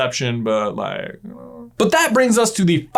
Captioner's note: confused noise